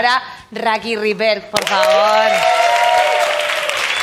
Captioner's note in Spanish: Aplausos y ovaciones